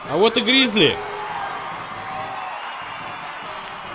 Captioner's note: crowd cheering